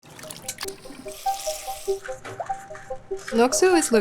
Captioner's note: water gushing; water sizzling